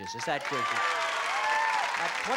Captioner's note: cheering